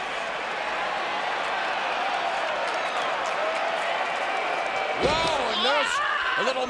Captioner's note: crowd cheering